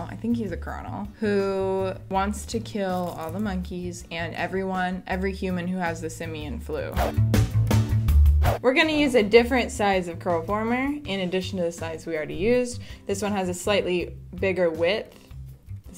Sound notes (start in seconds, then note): 6.9 upbeat music; 6.9 swoosh; 8.4 swoosh